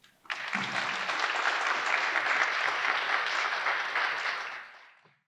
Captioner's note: audience applauds